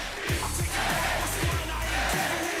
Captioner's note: fans chanting